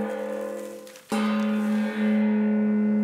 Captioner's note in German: Gong